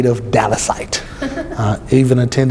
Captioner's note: laughs